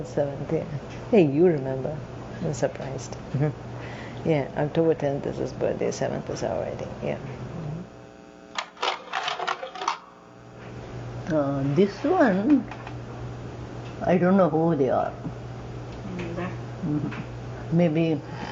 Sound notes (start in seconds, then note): 8.5 slide carousel sound; 12.9 speaking Telugu